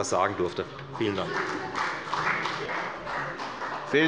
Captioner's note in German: Beifall bei der FDP